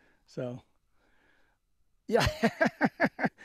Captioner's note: laughter